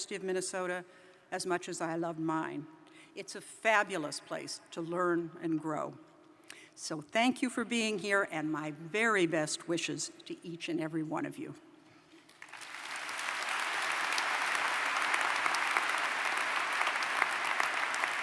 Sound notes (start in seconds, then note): 12.2 applause